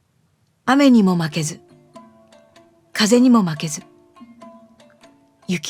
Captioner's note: speaking in foreign language